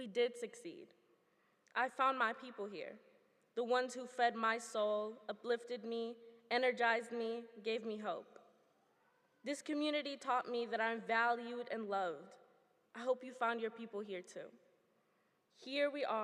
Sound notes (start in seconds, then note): none